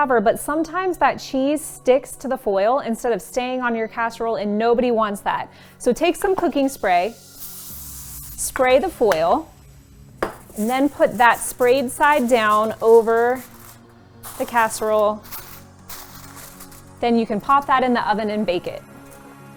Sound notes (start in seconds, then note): 14.2 foil crinkling